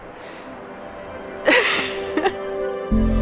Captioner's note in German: Lachen